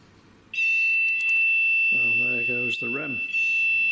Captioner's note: loud beeping